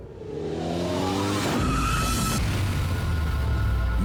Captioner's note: car screeching